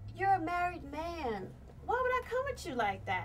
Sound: none

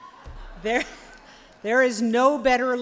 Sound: laughter

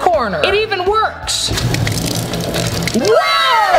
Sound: water running

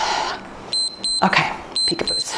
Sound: timer beeps

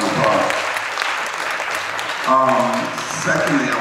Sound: audience applauds

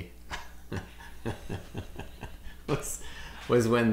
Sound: chuckles

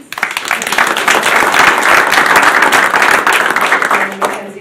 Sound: audience applauding

